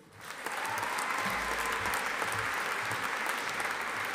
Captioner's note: audience applauding